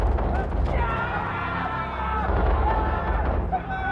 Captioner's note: people shouting